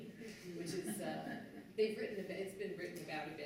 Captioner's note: laughter